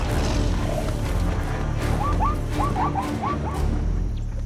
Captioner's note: lion roars